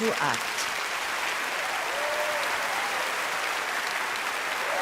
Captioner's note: applauding